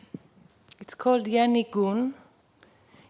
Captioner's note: non-english speech